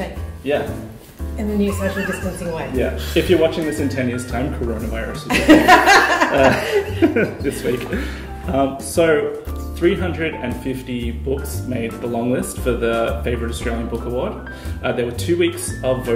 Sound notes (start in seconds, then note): 8.0 laughter